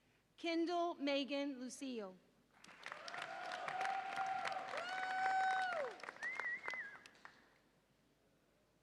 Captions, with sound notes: Kendyl Megan Lucio. (audience applauds and cheers)